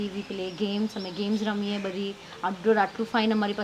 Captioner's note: in Gujarati